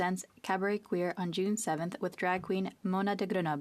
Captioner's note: speaking French